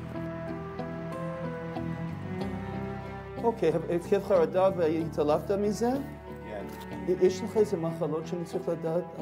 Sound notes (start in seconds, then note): 3.8 medics speak foreign language